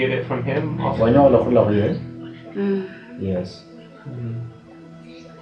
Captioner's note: speaking in foreign language